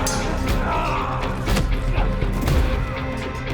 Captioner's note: all moaning